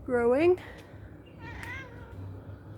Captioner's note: cat mewing